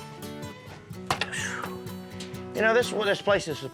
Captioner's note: sighs